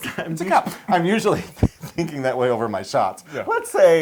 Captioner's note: laugh